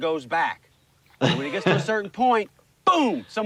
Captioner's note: laughs